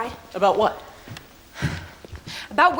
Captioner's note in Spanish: suspira